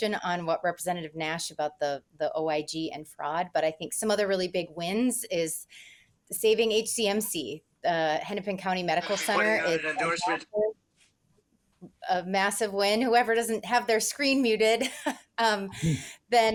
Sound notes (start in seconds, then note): 11.1 faintly speaking; 15.7 laughs